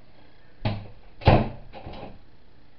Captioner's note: door Closes